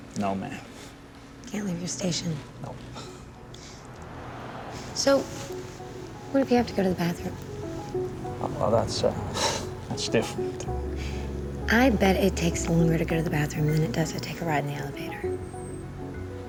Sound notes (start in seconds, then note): 9.8 chuckles